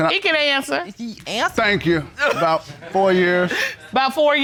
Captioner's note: audience laughing